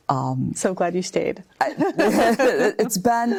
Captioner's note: laugh